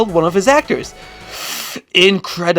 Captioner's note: inhale